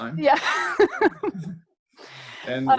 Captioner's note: laughs